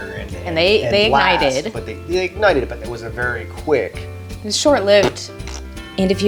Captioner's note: fart sounds